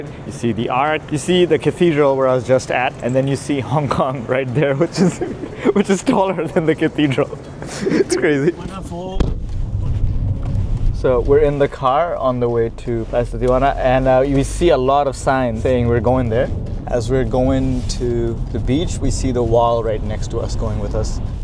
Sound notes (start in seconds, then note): 4.8 laughs; 8.6 foreign language